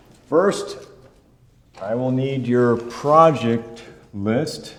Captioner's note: none